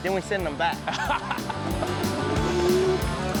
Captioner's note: laughing